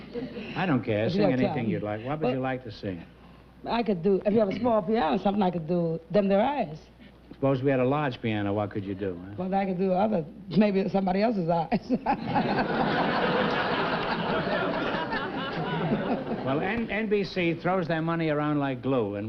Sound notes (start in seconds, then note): 11.8 chuckles